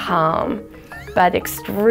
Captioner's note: laughing